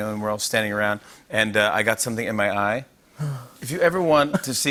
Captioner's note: gasps